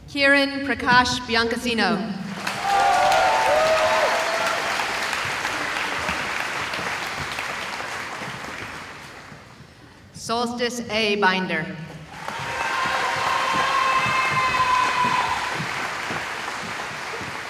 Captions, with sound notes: Kieran Prakash Biancassino [cheering] Solstice A. Binder [cheering]